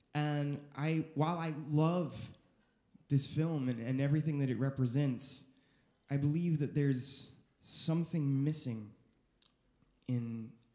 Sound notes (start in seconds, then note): none